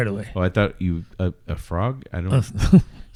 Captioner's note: uh